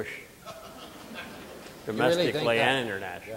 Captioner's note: audience laughing